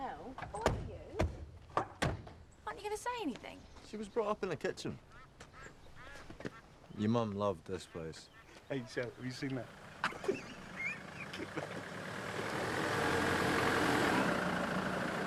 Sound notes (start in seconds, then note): 9.9 laughs; 12.4 engine rumbling